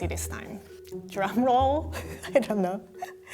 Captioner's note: laughing